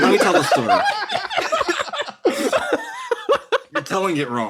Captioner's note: laughs